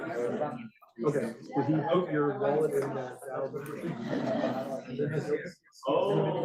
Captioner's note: students continue chattering